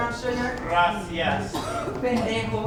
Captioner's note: speaking in a foreign language